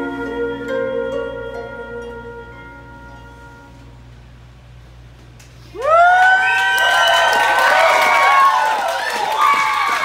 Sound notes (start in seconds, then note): 6.1 applause